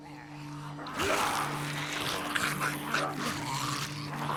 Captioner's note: snarling, munching